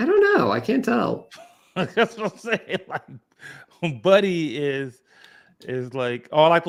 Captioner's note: laughs